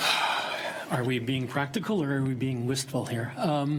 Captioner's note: sighs